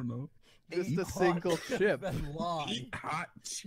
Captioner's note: coughing from laughing too hard